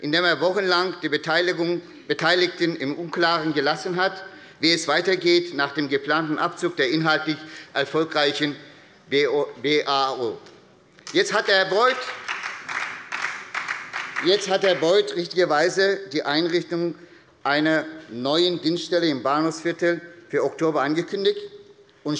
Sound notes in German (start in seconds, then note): 11.1 Beifall bei der SPD